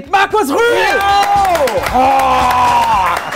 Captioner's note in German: Jubel, Applaus